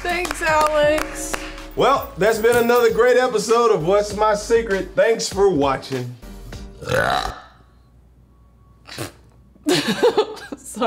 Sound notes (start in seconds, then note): 0.0 clapping; 6.7 belches; 9.6 laughter